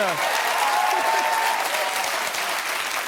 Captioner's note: applause